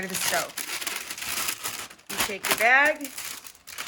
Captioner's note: parchment paper crinkles